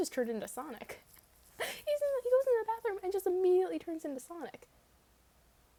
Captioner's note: laughs